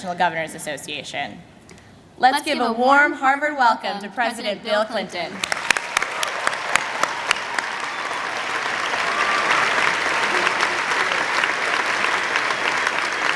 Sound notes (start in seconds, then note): 5.3 applause